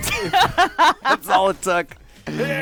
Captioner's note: laughter